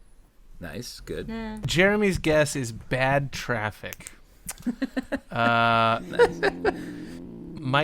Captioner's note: laughter